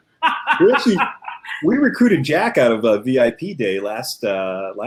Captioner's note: laughter